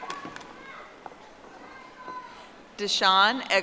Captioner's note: audience applauding